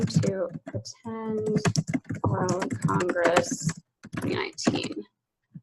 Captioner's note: keyboard keys clicking